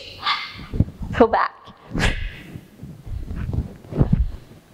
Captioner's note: exhales